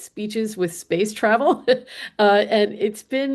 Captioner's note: chuckles